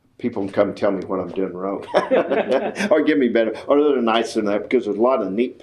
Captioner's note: laughs